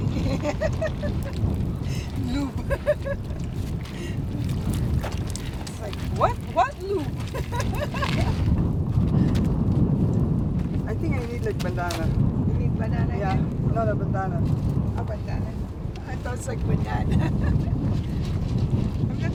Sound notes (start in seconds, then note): 0.0 loud laughing; 2.2 laughing loudly; 5.3 water sploshing; 7.2 laughing loudly; 17.1 laughing loudly